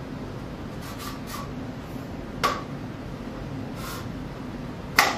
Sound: metal scraping

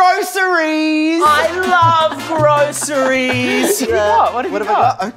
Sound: happy music; laughing

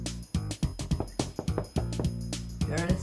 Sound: knocking

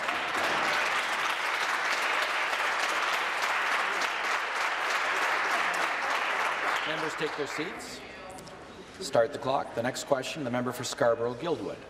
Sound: applause

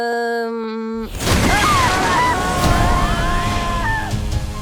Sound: Orion screaming

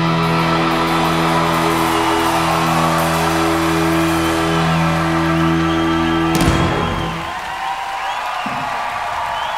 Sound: applause

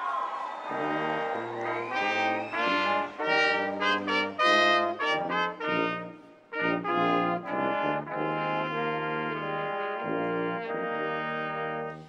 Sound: cheers and applause

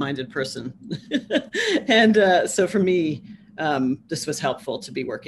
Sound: laughs

